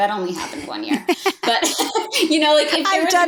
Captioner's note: both laughing